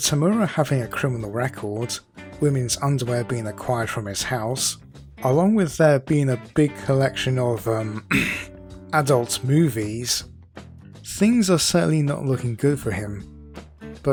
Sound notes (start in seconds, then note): 7.9 clears throat